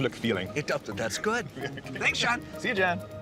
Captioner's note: laughing